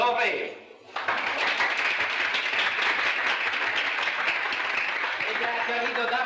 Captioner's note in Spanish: aplausos